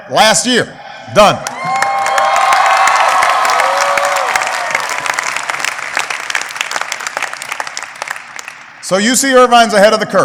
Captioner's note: applause